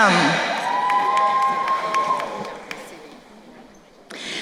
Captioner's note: crowd cheering